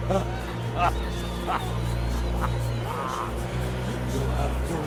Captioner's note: Carnby laughing